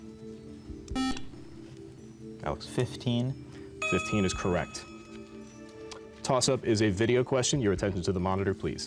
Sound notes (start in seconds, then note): 0.1 tense music; 1.4 buzzer